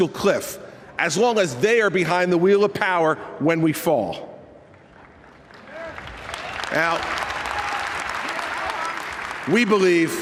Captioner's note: applause